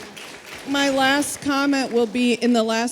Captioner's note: audience applauding